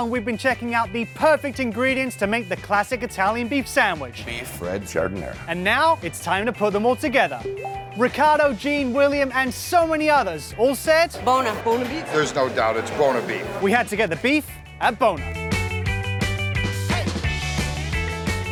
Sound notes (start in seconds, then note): 7.5 ding; 14.6 light music